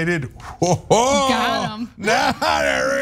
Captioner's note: laugh